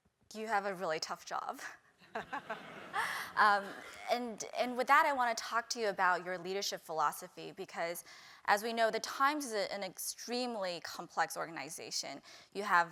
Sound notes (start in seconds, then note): 2.1 laugh